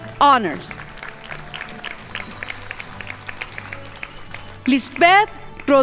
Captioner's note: crowd applauding